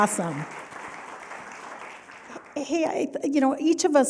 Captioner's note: applause